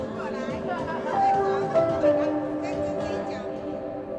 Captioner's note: laughing